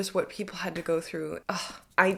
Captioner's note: sighs